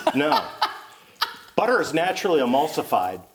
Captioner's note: laughing